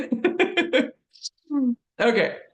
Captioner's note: laughs